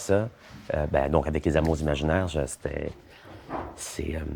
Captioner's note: heartbeats